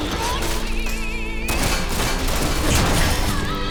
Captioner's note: gunshots